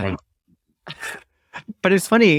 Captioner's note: chuckles